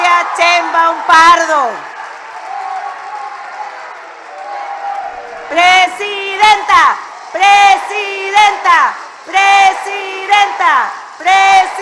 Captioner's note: applause